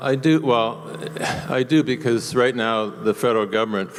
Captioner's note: voiceover